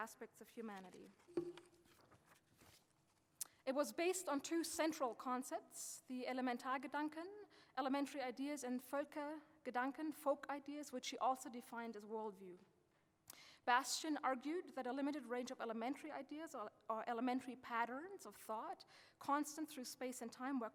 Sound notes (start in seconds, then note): 6.4 speaking German; 9.2 speaking German